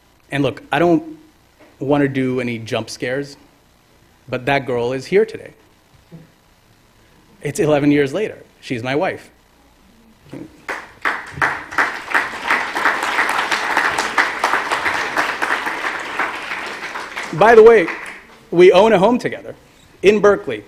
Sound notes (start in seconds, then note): 12.3 applause